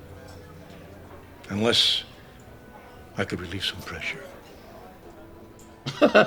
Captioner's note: laughs